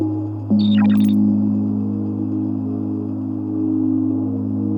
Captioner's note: graphics beeping